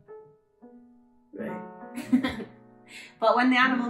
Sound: laughter

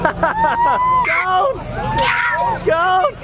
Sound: laughs

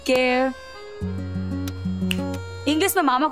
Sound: snaps finger

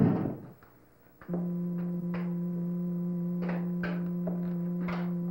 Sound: machine humming

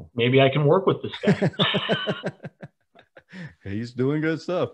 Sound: laughing

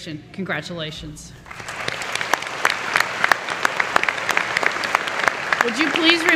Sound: applause

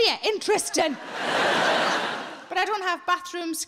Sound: audience laughing

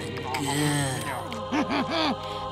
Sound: chuckling

